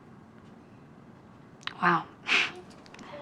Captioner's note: chuckles